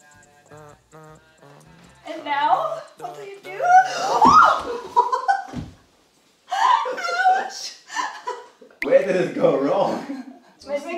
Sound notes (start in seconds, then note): 3.6 shrieks then laughs; 10.7 speaks in foreign language